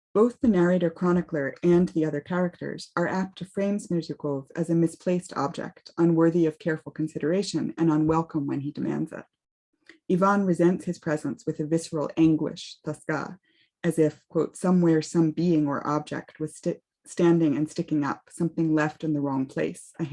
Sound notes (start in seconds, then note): 12.8 speaks russian